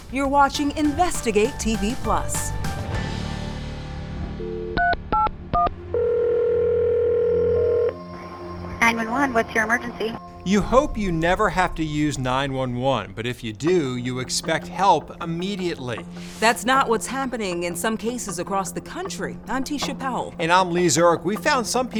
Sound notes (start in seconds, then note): 5.9 phone ringing